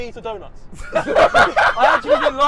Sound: laughing

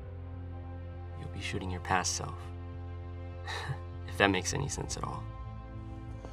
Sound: laughs

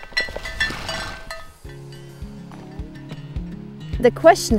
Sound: horses neighing

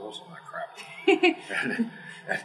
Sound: laugh

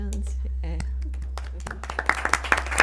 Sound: applause

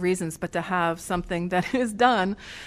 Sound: laughter

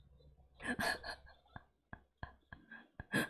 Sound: laughs

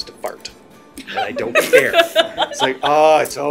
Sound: laughing

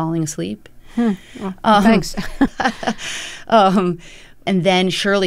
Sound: laughter

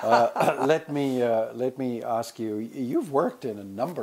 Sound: laugh

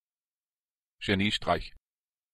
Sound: fast Pronunciation

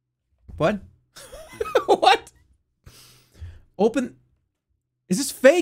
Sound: laughs

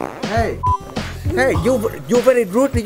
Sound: fart noise

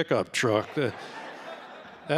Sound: laughter

